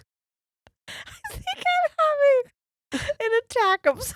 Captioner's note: laughing